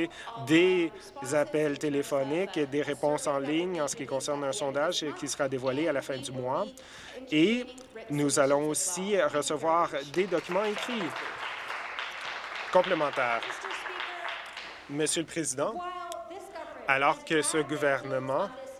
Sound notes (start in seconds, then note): 13.6 applause